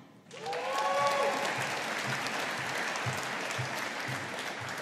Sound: audience applauding

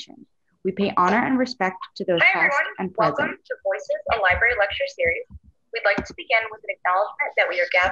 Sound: recorded talk back

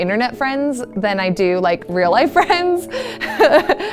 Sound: chuckles

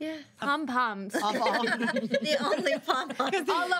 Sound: girls laugh

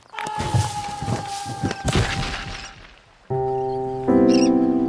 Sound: frightened screaming

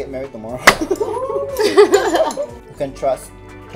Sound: laughs

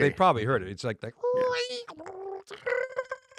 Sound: imitating modem

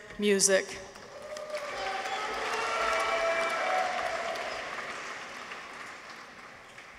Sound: people cheer; audience applauds

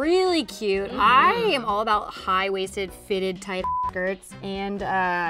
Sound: beep

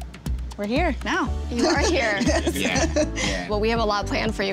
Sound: laughing

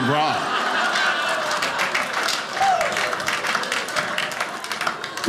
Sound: audience laughing

